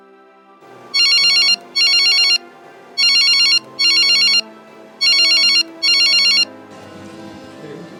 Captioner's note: telephone rings